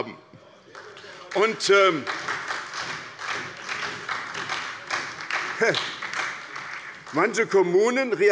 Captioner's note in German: Beifall bei der SPD